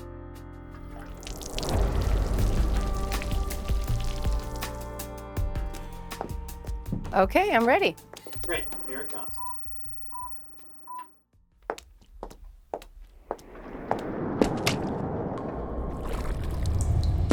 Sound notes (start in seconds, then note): 0.8 water sprinkling; 10.3 beeping; 11.6 shoes tapping